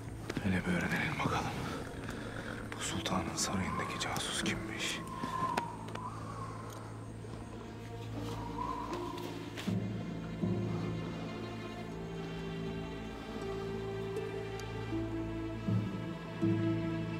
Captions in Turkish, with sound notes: Hele bir öğrenelim bakalım. Bu sultanın sarayındaki casus kimmiş. (Müzik - Gerilim) (Rüzgâr sesi)